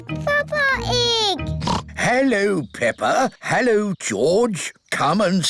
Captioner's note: oinks